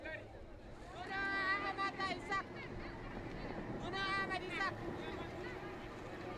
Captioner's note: speaking foreign language